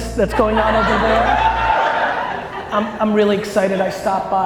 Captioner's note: audience laughter and cheers